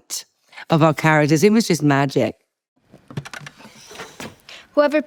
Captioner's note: mechanics click